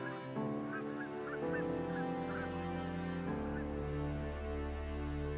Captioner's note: birds squawking